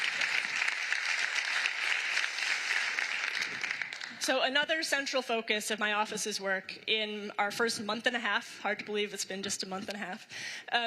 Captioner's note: applause